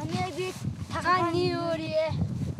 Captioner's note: foreign language spoken